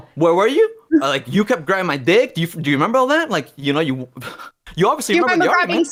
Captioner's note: chuckles